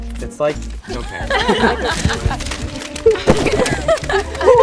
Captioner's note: laughter